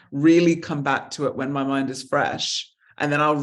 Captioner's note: none